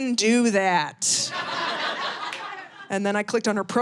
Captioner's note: audience laughing